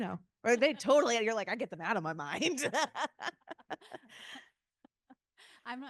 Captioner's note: laughing